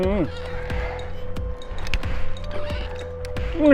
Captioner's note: sound of an ascender and rope